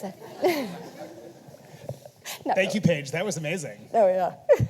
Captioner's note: audience laughing